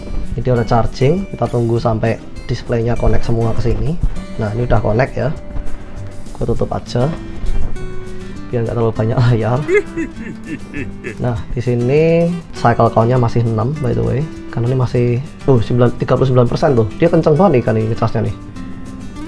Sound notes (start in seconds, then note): 9.6 chuckles